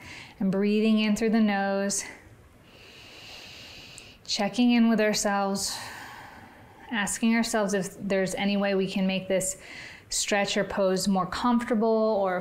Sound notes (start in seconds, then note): 2.7 inhales; 5.7 exhales